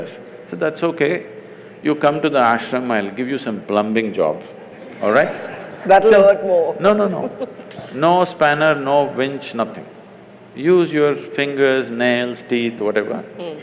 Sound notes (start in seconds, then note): 4.4 laughs; 4.5 laughter